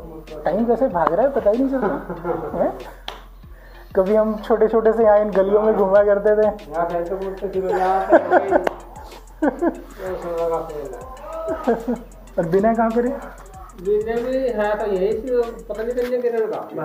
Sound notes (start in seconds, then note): 6.8 laughing